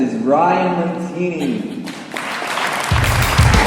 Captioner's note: applause